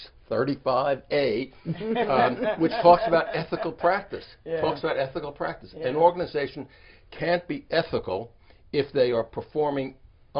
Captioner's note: laughter